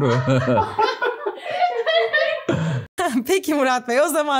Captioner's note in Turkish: Gülüşmeler